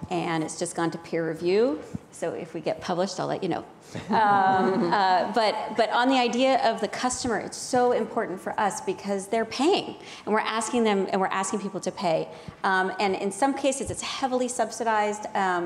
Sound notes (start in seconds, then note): 4.0 people laughing